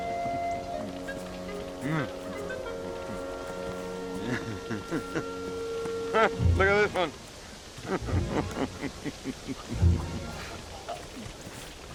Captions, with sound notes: Heh, look at this one. (laughing)